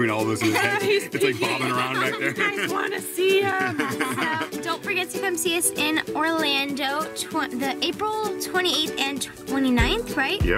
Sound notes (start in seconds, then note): 2.2 laughing